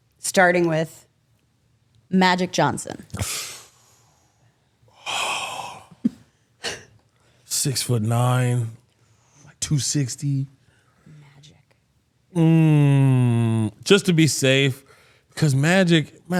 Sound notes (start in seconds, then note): 3.1 O'Shea wincing and sighing